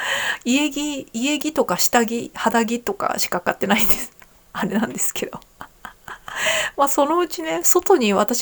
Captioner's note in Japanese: 笑い